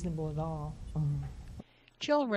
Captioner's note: hums